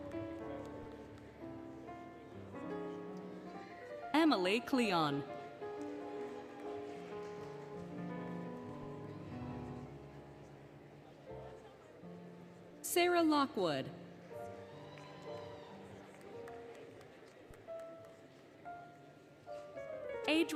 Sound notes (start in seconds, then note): 14.3 applause, Cheering, Music